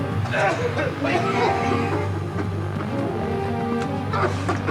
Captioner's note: dramatic music; coughing; dramatic music